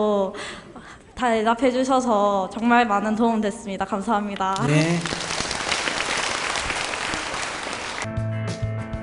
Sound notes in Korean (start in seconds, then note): 4.5 청중 박수